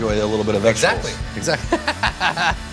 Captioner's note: laughs